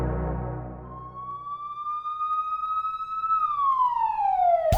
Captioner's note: siren blaring